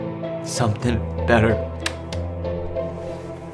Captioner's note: tape recorder clicks